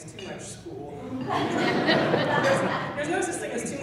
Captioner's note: laughing